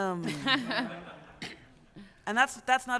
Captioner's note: laughter